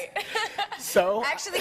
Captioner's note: laughing